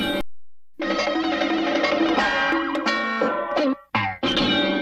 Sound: cartoon sounds continuing

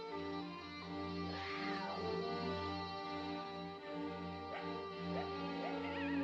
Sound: sound of a cat yowling, dog barking

